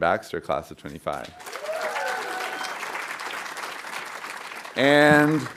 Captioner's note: audience applauding